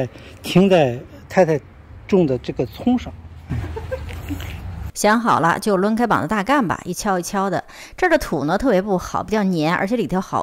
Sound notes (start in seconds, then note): 3.4 laugh